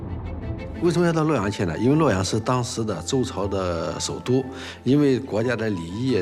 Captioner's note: hablan un idioma extranjero